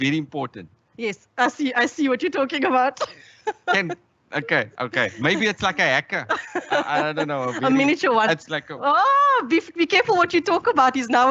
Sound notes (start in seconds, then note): 2.6 laughs